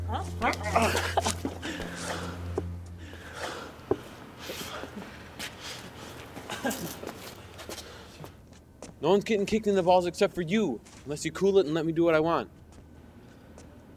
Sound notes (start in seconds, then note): 0.7 heavy breathing; 6.7 gravel shifting